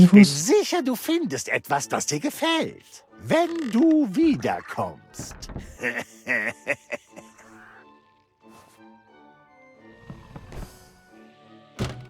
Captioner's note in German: gelächter